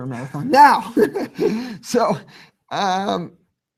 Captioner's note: laughing